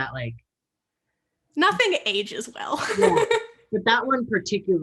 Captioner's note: both laughing